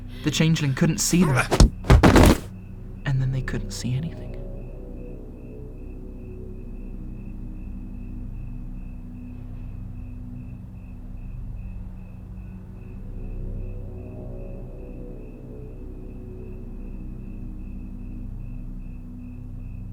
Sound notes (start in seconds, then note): 1.3 crack; 1.3 thud